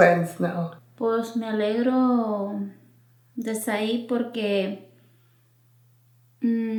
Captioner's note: speaking in foreign language